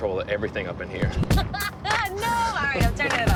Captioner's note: laughs